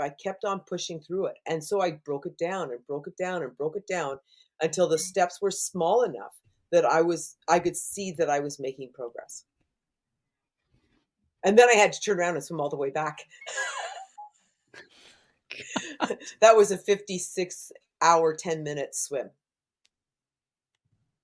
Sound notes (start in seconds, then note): 13.4 laughter